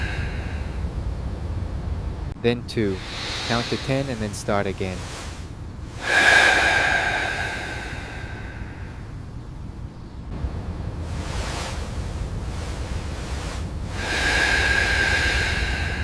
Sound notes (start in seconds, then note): 3.5 breathing deeply; 3.5 deep breathing